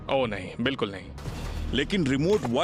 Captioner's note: narrating